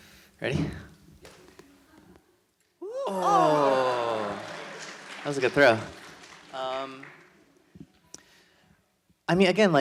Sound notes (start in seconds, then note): 3.5 audience laughs